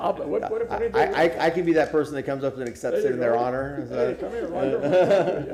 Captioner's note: laughter